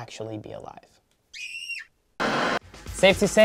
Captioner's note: screams; static